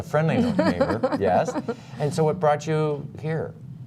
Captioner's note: laughter